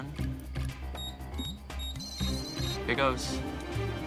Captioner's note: beeping